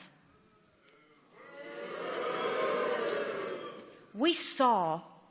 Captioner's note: audience jeers